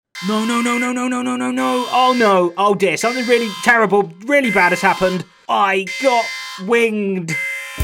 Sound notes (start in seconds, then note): 0.1 alarm sounds